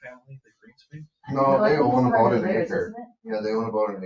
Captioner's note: people chattering